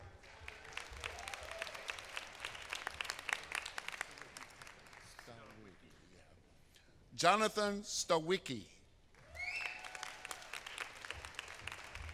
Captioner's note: applause